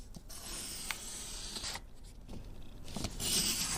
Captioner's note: pencil scratches